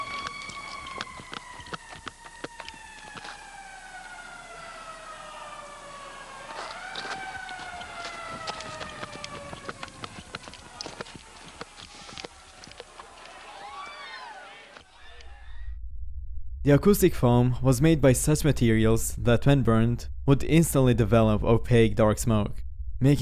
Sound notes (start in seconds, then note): 0.0 footsteps clattering; 6.3 alarms wailing; 6.3 crowd shouting faintly